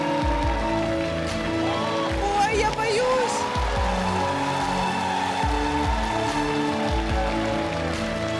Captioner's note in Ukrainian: оплески